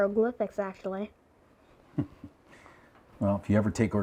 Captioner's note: Mercer chuckles